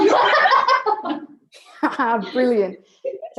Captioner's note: laughing